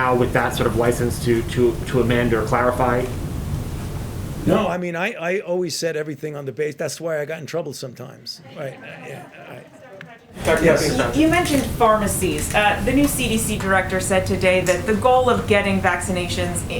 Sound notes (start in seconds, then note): 8.4 laughter